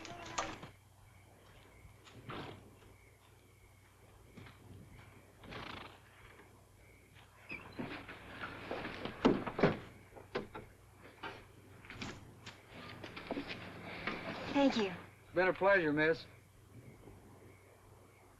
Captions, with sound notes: (door clatters open) - Thank you. - It's been a pleasure, Miss.